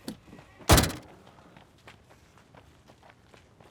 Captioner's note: door slams